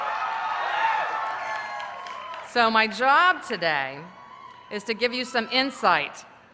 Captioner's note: cheers